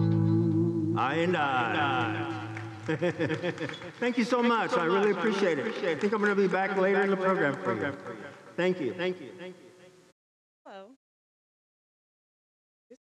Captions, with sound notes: "I and I." (laughs) Thank you so much, I really appreciate it. I think I'm gonna be back later in the program. Thank you. - Hello, thank you.